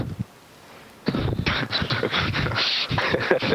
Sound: laughter

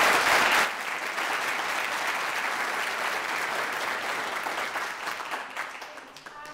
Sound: audience applauds

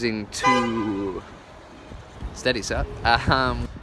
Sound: car horn

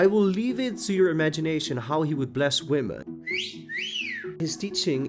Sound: flirt Whislte

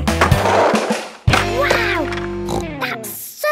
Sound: snorts

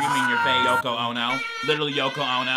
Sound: people yelling

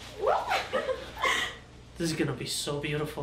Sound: giggles

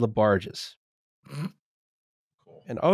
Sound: snorts

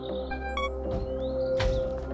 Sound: static swirling, digital noises; beep

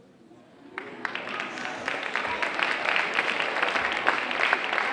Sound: audience applauding

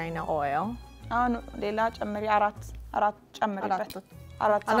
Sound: speaking Amharic

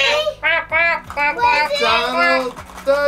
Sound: chatter; quacking

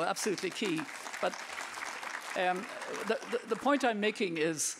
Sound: audience clapping

